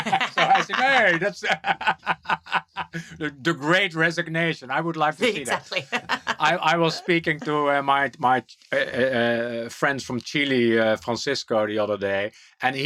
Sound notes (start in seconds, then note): 5.2 laughs